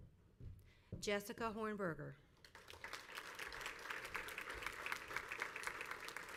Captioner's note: crowd applauds